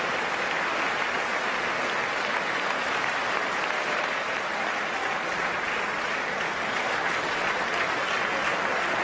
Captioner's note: applause